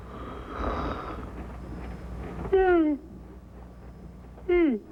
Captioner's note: yawning